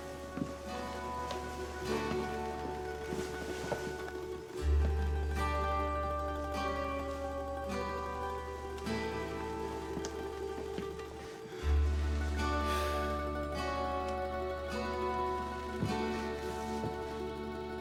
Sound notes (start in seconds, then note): 0.1 melancholy music; 12.4 sighs